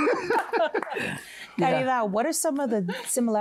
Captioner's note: laughter